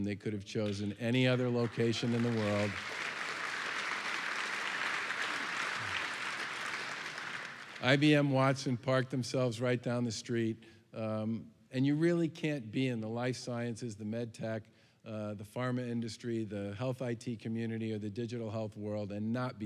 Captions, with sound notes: they could have chosen any other location in the world. [APPLAUSE AND CHEERING] IBM Watson Parked themselves right down the street. And you really can't be in the life sciences, the med tech, the pharma industry, the health IT community, or the digital health world and not